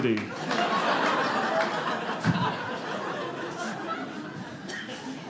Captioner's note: audience laughing